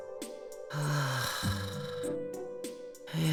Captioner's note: weary sigh